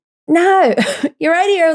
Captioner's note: laughs